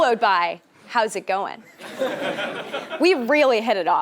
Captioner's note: laugh